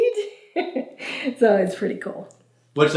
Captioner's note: chuckles